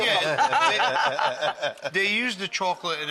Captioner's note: laughing